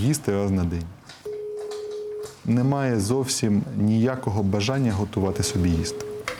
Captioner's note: Telephone call